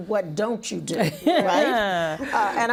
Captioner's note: laughing